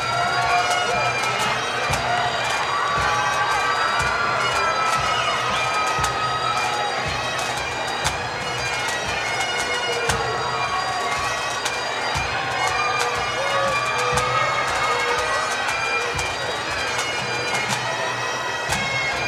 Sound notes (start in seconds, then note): 3.2 cheers and Applause; 17.8 drums and bagpipes